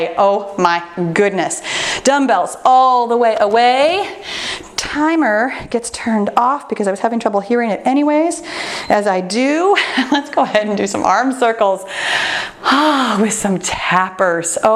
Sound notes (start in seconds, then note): 8.8 timer beeps